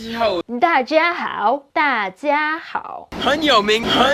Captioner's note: speaking in Mandarin